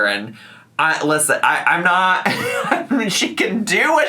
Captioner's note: chuckles